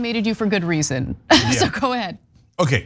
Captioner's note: laugh